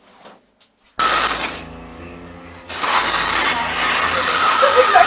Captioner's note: static crackles; static screeches; dark piano music